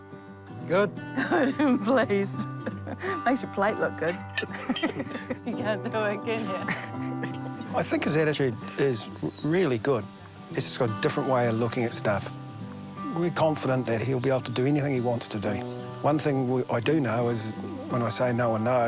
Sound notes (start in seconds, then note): 4.5 laughs; 6.4 chuckles